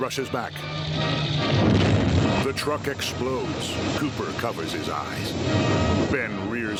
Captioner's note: explosion rumbling